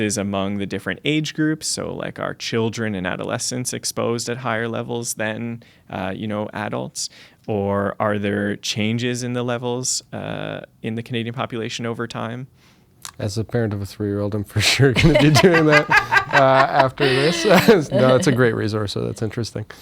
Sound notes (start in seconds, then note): 18.0 laughter